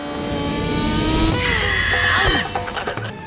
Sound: squawking

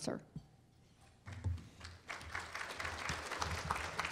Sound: applause

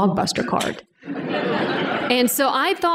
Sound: laughter

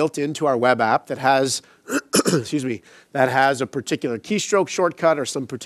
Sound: coughs

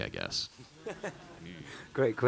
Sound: laughing

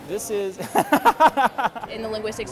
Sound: laughter

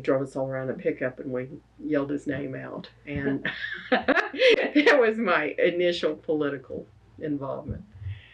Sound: laughs

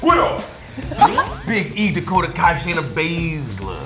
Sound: laugh

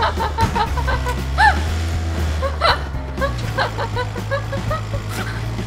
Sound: laughter lol

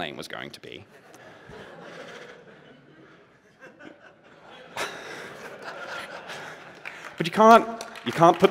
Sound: laughter

